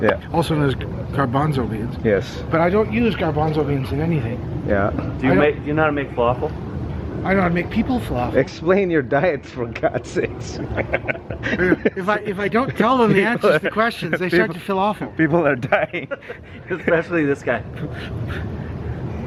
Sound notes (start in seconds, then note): 10.6 laughing